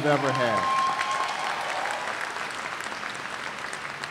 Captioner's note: cheers and applause